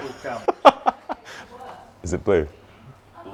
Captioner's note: laughing loudly